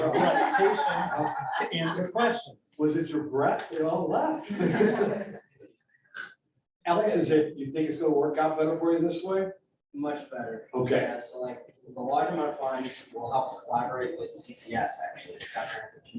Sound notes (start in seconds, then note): 4.4 laughter